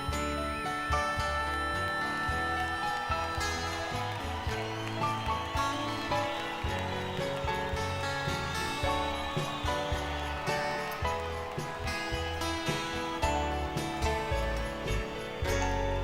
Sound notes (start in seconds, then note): 4.7 audience cheering; 4.7 tender instrumental music; 12.1 tender instrumental music